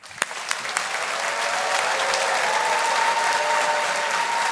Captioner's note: audience applauding